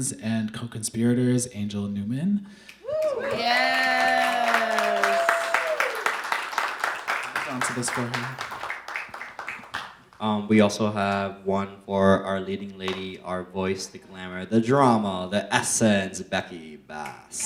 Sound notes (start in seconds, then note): 2.8 audience applauding